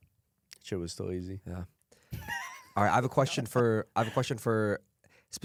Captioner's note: laughs